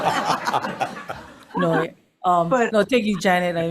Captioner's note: members laughing